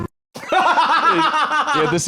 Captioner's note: laughs